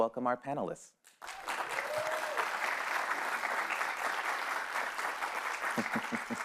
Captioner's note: panelists cheering and applauding